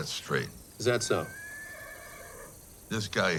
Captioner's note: horse whinnies